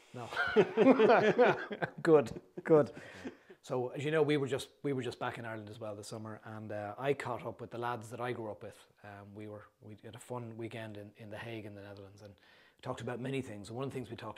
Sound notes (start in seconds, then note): 0.3 laughter